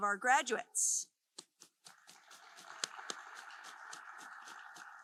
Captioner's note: group applauding